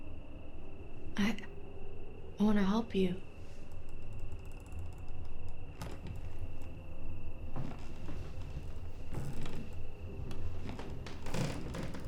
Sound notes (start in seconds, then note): 4.9 floorboards creaking; 4.9 suspenseful music